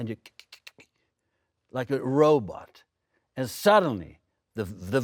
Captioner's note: clicking tongue